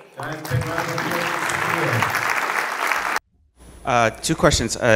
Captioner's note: audience clapping